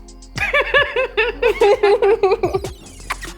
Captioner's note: laughing